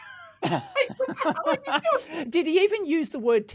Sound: laughing

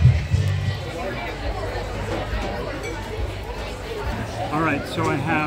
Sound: background chatter

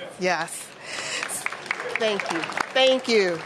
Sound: applause

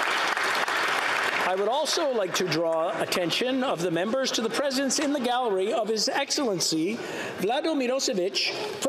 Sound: applause

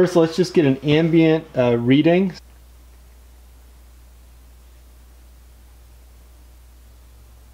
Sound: no talking

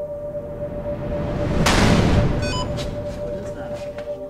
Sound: loud bang

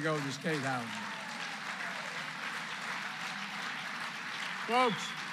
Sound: applause

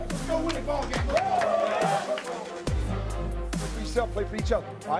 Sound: cheering

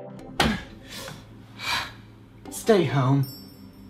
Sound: grunts

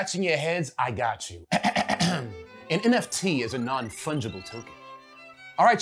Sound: clearing throat

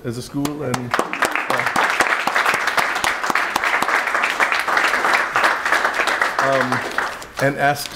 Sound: applause

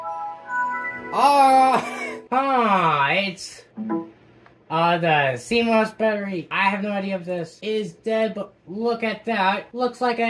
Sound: wheezes

